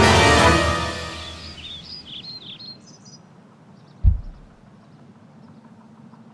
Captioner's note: epic music stops. Birds in background